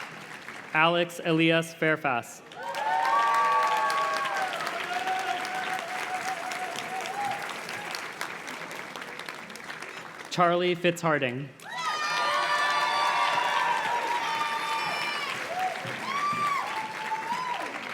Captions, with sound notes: Alex Elias Farefast. (audience cheers and claps) Charlie Fitz Harding. (audience cheers and claps)